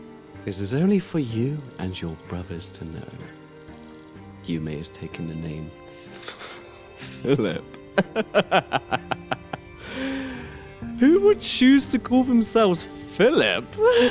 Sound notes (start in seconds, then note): 9.0 laughs; 13.7 laughs